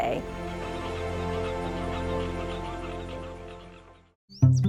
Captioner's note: birds squawking; bright music; birds chirping; gentle upbeat music